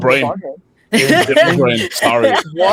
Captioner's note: laughing